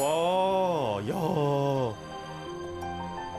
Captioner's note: truly an awestruck sigh